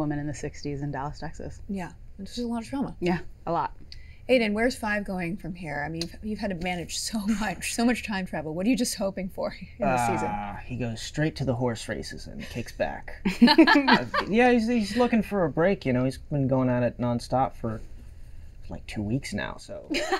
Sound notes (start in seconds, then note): 13.4 all laughing